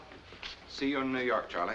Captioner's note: voiceover